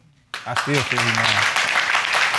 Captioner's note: audience applauding